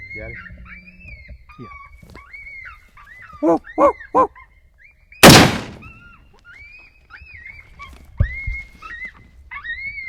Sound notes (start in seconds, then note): 5.2 gun shooting; 7.2 coyote crying